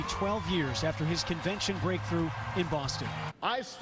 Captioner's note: cheers and applause